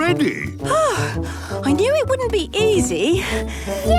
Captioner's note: panting